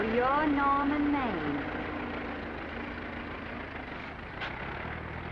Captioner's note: engine rumbling